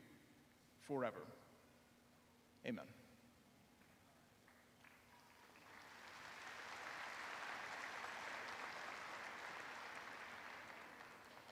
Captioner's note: applause